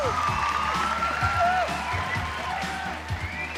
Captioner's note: crowd cheering